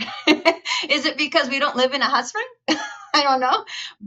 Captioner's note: laughs; chuckles